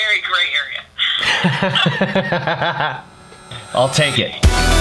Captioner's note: laughs